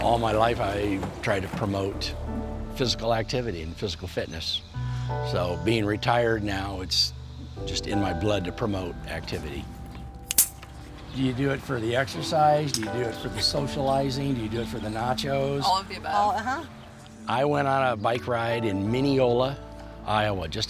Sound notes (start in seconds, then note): 10.3 bike pump clicks